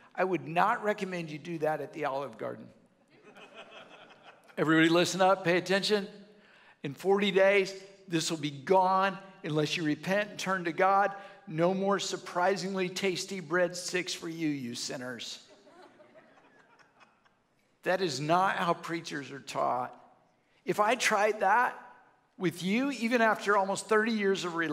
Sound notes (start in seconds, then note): 3.2 audience laughs